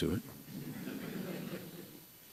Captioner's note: laughter